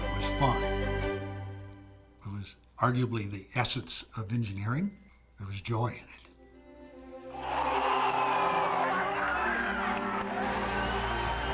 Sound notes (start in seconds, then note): 7.2 crowds cheering